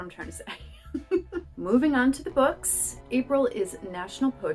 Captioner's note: laughter